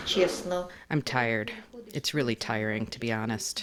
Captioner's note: through translator